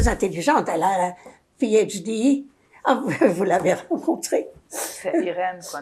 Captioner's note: laughing